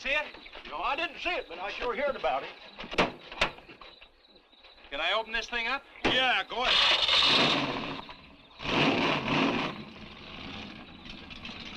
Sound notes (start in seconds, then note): 6.5 engine cranks; 8.9 engine revving